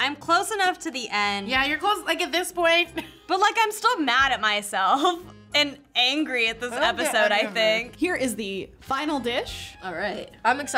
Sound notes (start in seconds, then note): 3.2 laughs